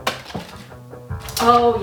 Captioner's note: retaliatory pen click